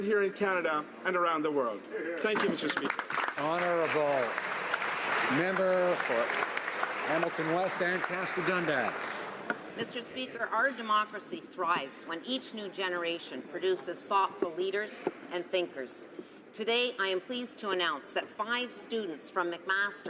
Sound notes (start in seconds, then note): 7.5 some Applause